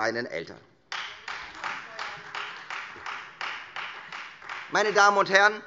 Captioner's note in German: Beifall Freie Demokraten